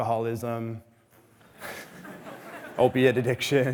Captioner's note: audience laughing